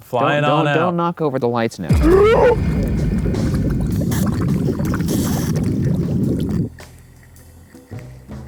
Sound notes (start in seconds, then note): 1.9 ominous music; 4.2 drinking